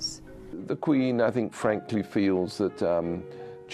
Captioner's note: voiceover